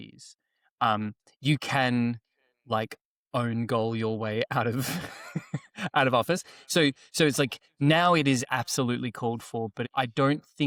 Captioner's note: chuckles